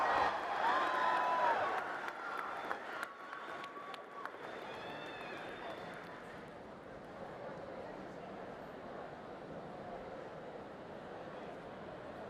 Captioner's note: cheering and applause